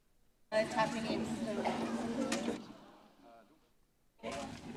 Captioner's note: audience chatters